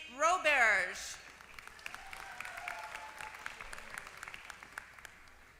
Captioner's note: applause